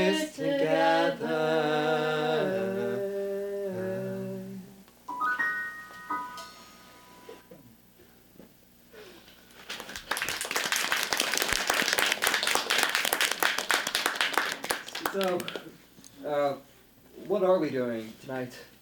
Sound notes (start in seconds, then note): 9.7 applause